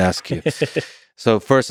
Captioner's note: Tim laughs